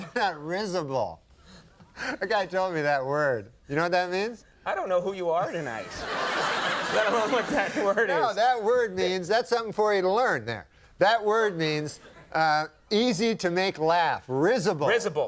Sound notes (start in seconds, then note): 5.8 audience laughing